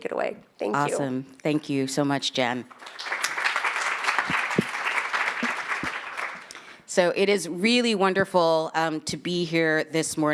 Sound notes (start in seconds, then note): 2.6 attendees clapping